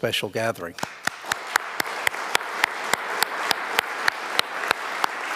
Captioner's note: audience applauding